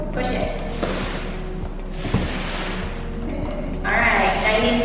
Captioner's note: suitcase sliding